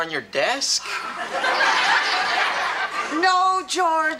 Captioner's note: audience laughs